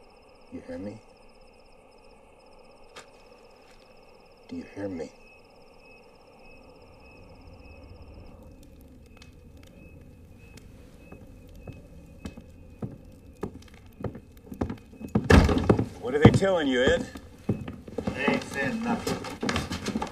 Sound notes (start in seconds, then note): 7.1 footsteps Approaching